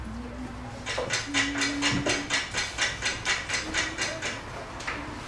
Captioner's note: timer ticking